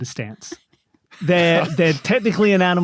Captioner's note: others giggling